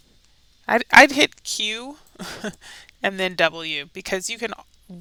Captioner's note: chuckles